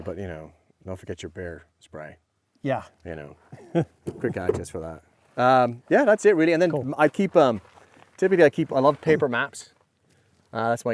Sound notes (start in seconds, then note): 3.3 laughing